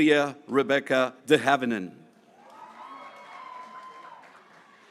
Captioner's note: graduates cheering